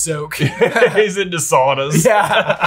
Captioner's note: all laugh